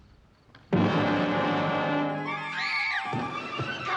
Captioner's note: children screaming